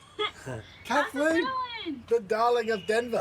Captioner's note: chuckles